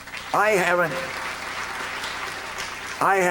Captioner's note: applause